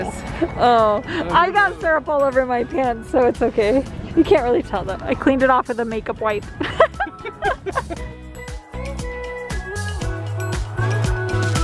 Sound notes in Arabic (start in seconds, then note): 6.6 يضحك; 8.2 موسيقى مبهجة